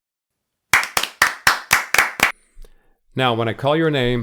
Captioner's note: everyone claps